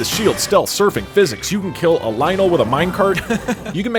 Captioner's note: laughter